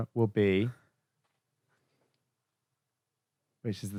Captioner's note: nothing sounds